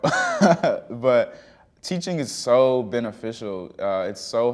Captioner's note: chuckling